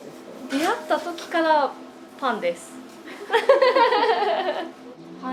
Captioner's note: laughs